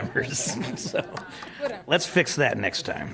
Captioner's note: laughing